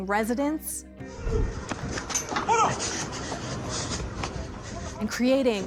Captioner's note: man shouting, breathing heavily